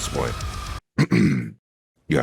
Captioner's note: clears throat